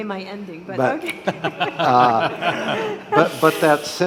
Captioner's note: all laughing